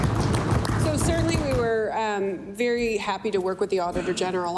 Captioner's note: applause